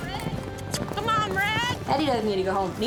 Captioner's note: hoofbeats